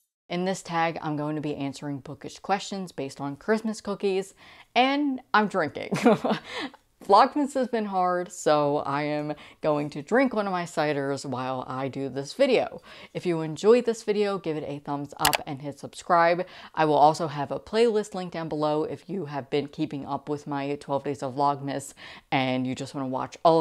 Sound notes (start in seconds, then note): 6.1 laughing